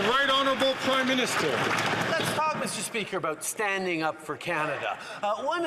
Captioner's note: some Applause